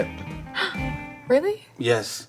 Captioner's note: gasping